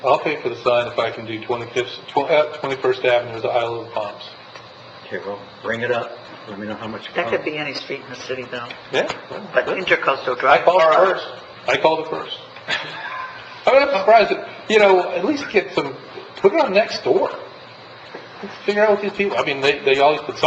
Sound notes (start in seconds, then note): 12.6 laughing